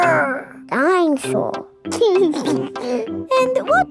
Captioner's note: giggles